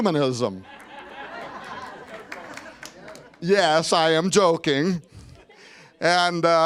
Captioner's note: laughter